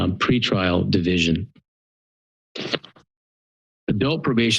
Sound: pause

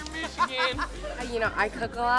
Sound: laughs

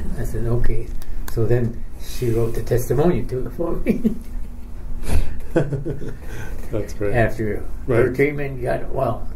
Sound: chuckles

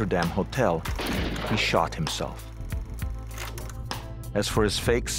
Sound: gun firing

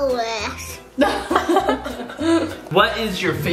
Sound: laughs

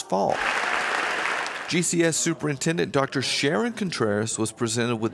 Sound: applause fades

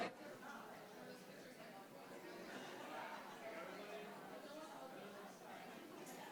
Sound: audience and board members chatting indistinctly continues

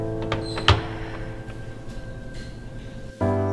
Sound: somber piano music; sighs

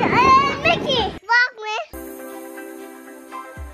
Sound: child's voice

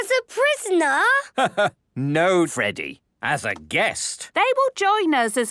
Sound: laugh

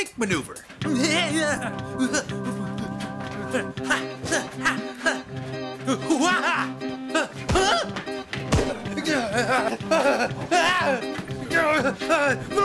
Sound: grunting

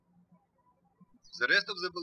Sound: birds chirping

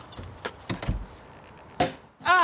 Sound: door close

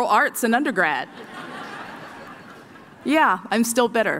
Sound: laughter

